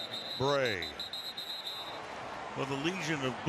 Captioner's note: whistle